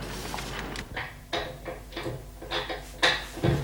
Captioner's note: lock turning